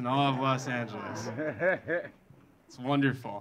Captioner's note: audience laughing